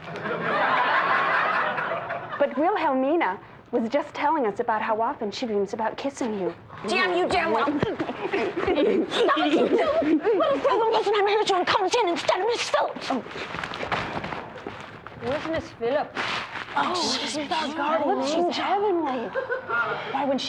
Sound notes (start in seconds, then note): 0.0 laughter; 8.0 grunting wrestling sounds; 9.1 grunting sounds cont; 13.0 scattering feet sounds; 19.1 light audience laughter